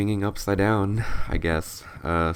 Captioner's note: sigh